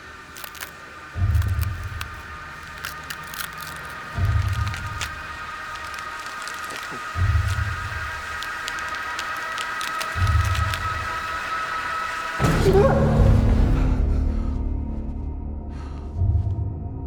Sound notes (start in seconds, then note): 0.0 distant crackling; 0.0 suspenseful music; 12.7 Danny gasps; 12.7 dramatic music; 15.6 heavy breathing